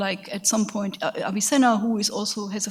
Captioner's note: speaks in a foreign language